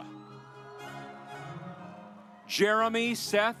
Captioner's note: audience applauds